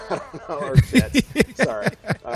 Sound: laughter

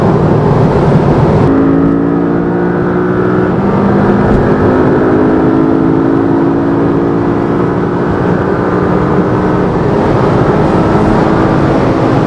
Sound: road noise; sound of the vehicle accelerating

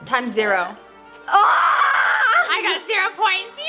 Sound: screaming

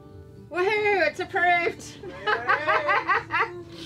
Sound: laughs

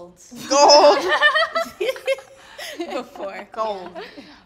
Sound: laughing

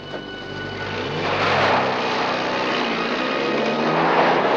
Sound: engine revving

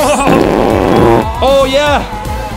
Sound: PZ11 farting

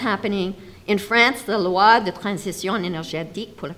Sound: speaks foreign language

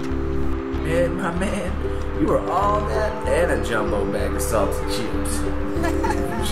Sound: laughs

